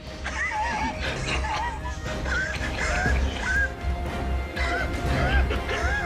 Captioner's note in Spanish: Risas